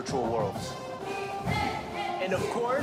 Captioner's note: cheerleaders chanting